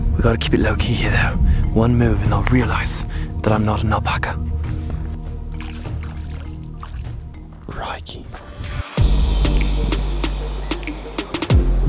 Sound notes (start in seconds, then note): 4.5 water splashing; 9.0 upbeat music